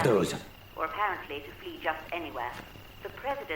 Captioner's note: radio Announcer